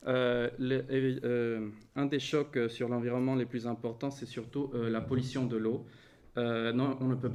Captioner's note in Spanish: impactos